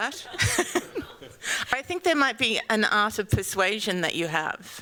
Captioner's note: chuckles